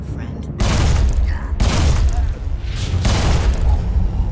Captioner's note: gun shots